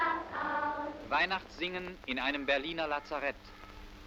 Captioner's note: man speaking german